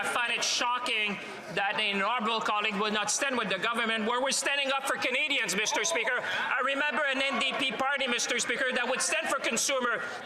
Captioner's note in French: voix de l'interprète